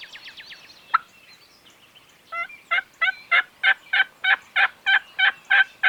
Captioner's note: birds tweeting; turkey call yelping